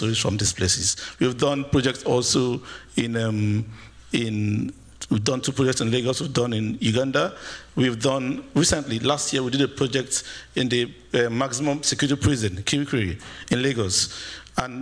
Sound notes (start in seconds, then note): none